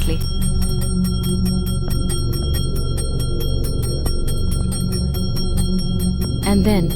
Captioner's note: intense bell jingling